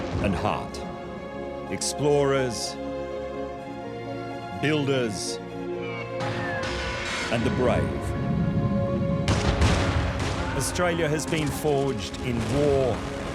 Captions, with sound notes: ...and heart. Explorers... builders... and the brave. [gun shots] -Australia has been forged in war... -[ship explodes]